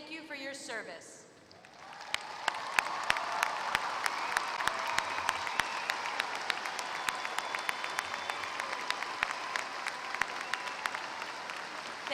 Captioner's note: applause